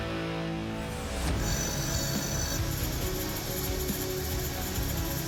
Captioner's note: sharpening